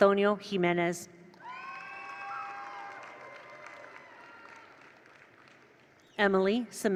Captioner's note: attendees cheer; attendees applaud